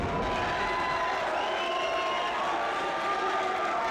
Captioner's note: crowd cheering